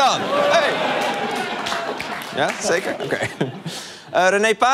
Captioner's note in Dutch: gejuich